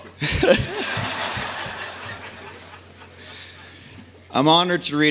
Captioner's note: laughter